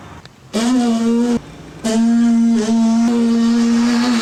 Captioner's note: buzzing